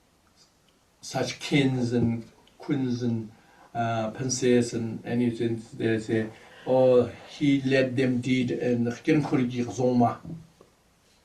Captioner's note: tibetan